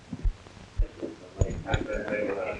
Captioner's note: murmuring